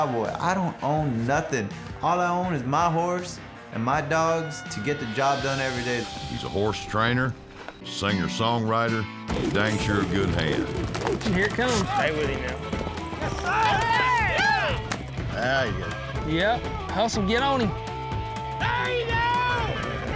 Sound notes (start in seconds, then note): 13.2 cheering